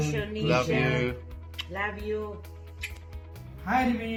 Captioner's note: smacks lips